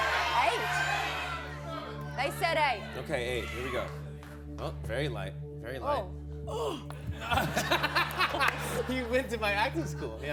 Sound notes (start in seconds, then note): 7.1 laughter